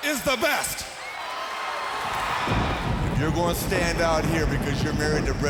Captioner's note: crowd cheering